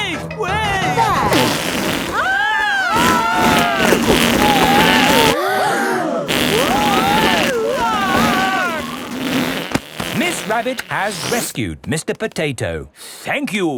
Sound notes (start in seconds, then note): 2.2 both screaming; 5.8 crowd gasps; 6.4 screaming